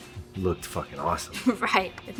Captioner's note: chuckles